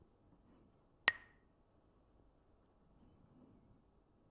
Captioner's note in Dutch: klakt met stokjes